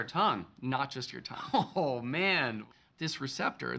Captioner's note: chuckling